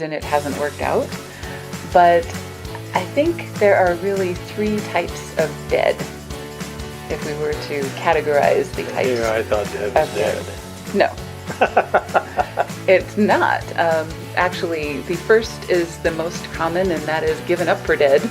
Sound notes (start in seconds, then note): 11.4 laughing